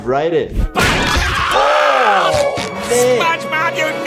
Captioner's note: SpongeBob screams; door bashes